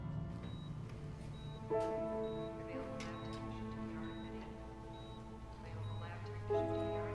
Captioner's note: tense piano music; monitor beeping